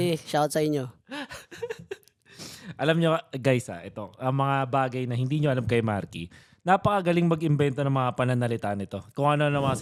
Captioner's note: laughs